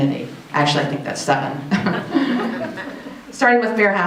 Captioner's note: audience laughs; chuckles